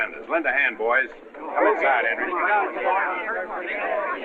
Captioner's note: chatter